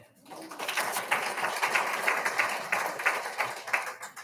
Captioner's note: all applauding